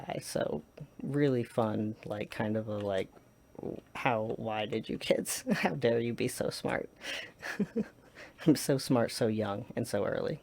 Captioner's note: laughs